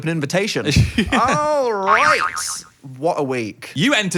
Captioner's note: boing sound effect